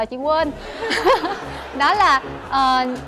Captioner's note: laughter